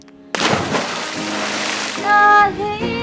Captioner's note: splash